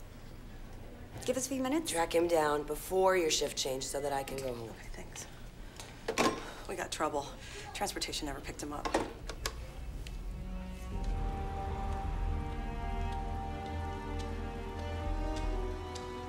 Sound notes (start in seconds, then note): 5.0 whispers; 6.4 telephone clanks; 9.7 button clicks; 9.7 ominous music plays; 11.1 foot steps pace